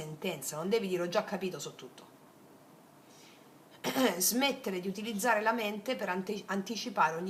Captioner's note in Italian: schiarire la voce